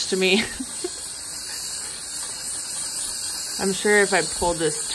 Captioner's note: laughing